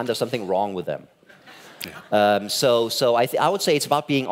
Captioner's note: laughing